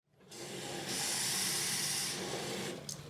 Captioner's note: sink turns on